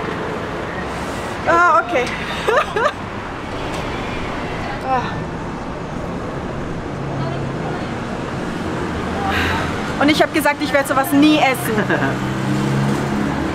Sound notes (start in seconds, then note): 11.6 laughs